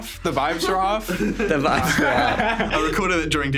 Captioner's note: everyone laughing